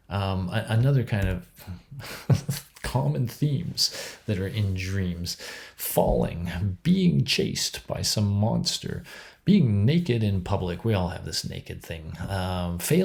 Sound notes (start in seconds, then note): 2.2 laughs